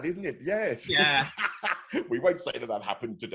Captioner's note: laughing